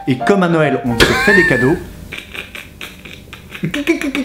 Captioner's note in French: rire